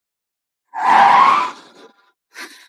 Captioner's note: gasp!